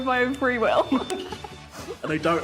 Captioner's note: laughing